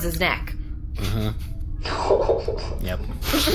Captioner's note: laughter